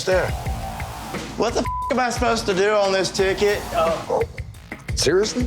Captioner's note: beep